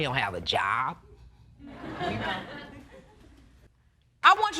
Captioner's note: audience laughs